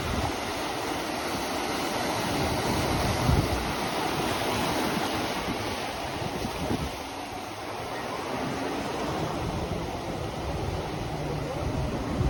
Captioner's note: ocean waves